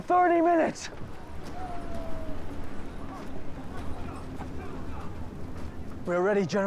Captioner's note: panting